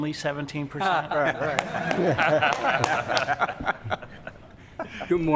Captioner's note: laughing and clapping